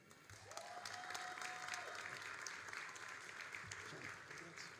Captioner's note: all applauding